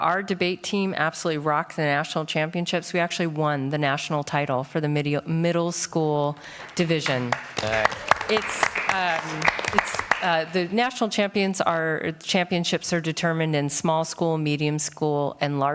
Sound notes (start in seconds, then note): 6.4 applause